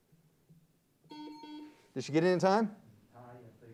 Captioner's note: timer bell dings; buzzer beeps